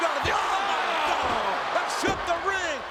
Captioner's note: spectators cheering